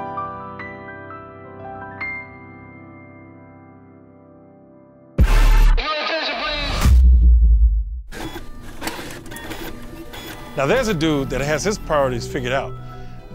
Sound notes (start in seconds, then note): 8.1 mechanical whirring